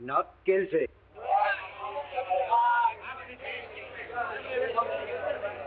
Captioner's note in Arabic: الناس يتحادثون